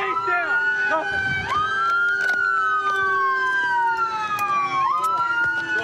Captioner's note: sirens